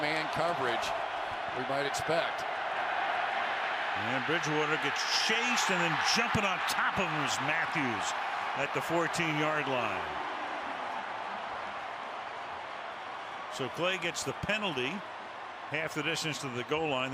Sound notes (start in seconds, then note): 4.5 pa announcement